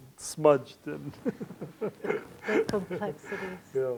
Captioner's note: laughter